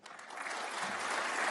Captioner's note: applause